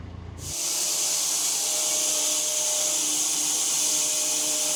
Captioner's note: saw whirring